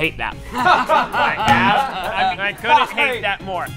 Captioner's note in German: lachen